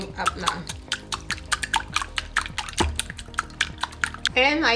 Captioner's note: whisk clacking